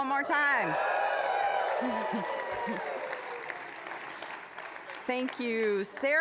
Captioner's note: applause, cheering